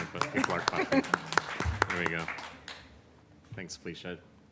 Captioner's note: applause